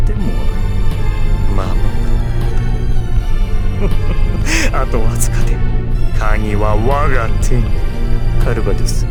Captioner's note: chuckle